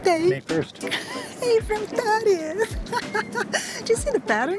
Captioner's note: laughs